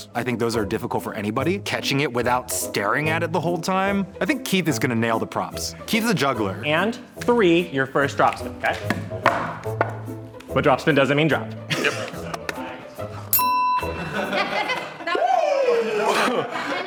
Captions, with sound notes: I think those are difficult for anybody, catching it without staring at it the whole time. I think Keith is gonna nail the props. Keith is a juggler. - And three, your first drop spin. But drop spin doesn't mean drop. (bell dinging) - Fuck!